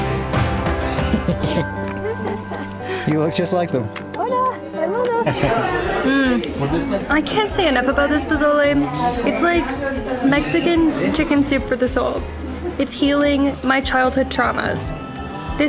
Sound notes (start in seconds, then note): 0.0 laughs; 4.3 speaking in foreign language